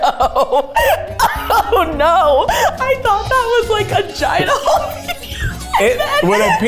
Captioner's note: laughing